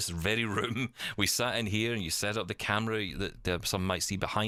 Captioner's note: laughs